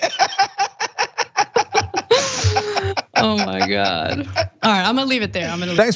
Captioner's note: laugh